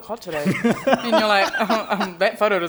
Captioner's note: laughter